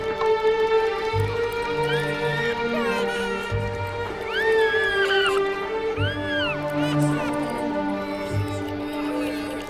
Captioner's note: child crying